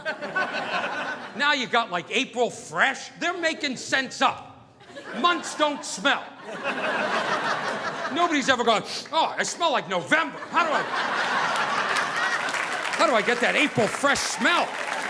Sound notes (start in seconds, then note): 0.0 audience laughing; 8.8 sniffing; 14.8 audience applauding